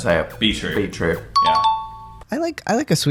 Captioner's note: ding-ding